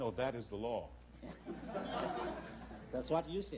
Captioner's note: laughter